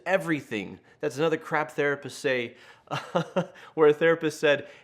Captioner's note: laughs